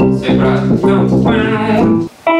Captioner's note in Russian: напевает